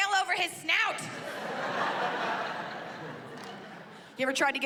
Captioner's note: laughter